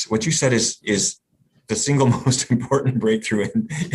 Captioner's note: laughs